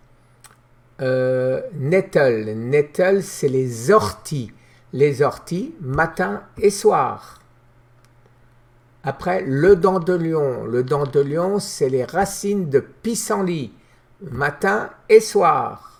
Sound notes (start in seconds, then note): 4.3 in french